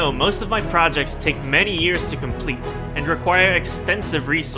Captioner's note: none